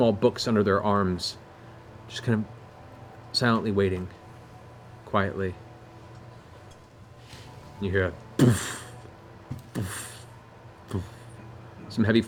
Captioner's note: impact sounds